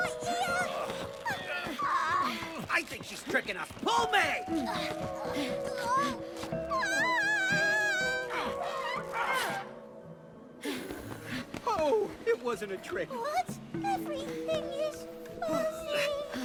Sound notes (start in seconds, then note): 6.4 characters groaning